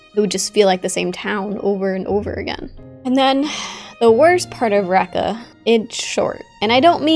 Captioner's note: sigh